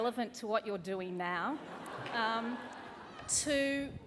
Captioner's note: laughter